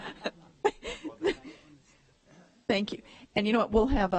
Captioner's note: laughter